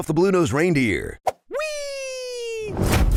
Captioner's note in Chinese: 開心的聲音